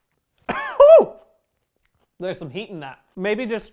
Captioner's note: cough